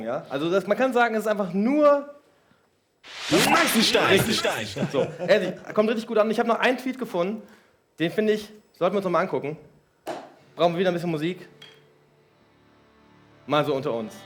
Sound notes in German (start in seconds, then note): 4.4 lacht